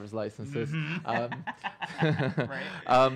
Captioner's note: laughing